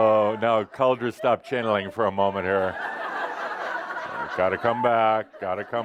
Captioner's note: more laughter